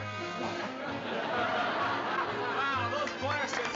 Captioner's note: applause